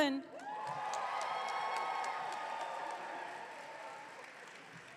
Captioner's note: audience cheering